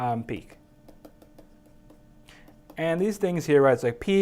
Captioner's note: tapping